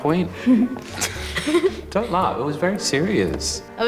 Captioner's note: both chuckle